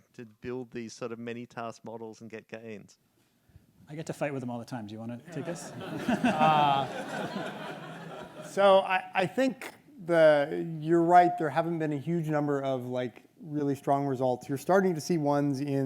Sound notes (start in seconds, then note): 5.2 audience laughs